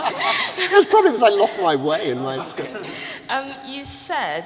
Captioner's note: laughter